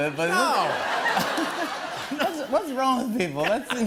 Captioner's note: laughter